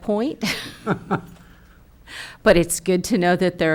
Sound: chuckles

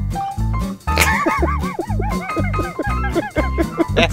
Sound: upbeat music; laughs

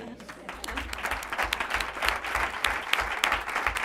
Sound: applause

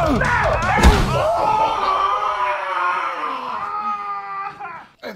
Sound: pained screaming

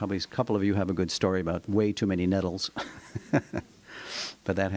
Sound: laughter

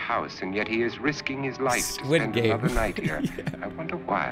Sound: chuckles

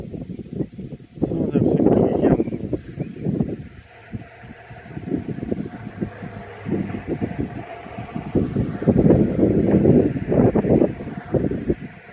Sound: wind traffic sound

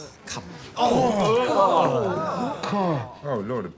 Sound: noises of disgust

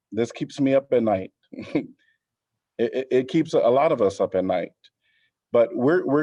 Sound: laughter

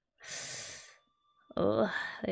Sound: sharp inhale

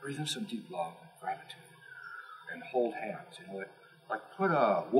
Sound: inhale; exhale

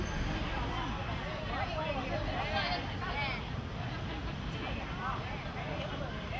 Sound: park noises

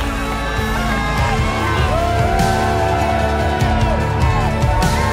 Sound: whoops and cheers

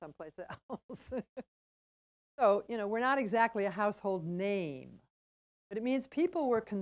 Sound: laugh

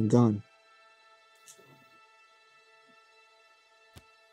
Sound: footsteps

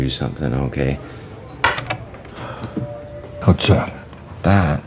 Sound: soundbite of rock clattering

